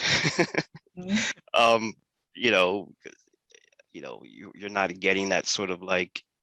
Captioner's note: laugh